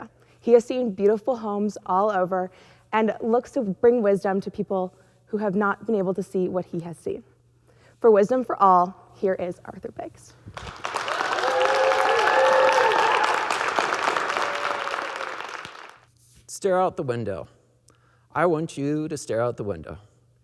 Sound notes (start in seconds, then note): 10.5 audience clapping; 10.5 audience cheering